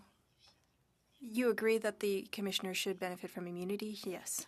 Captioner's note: speaking French